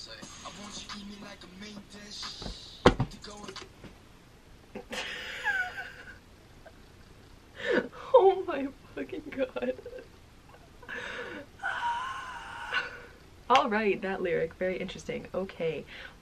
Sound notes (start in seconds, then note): 4.7 laughing